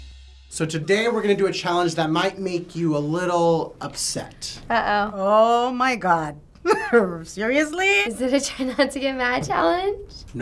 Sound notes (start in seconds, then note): 6.6 chuckles